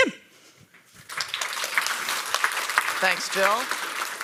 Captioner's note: audience applauds